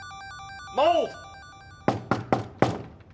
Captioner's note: door knocking